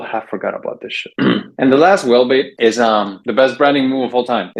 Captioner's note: clears throat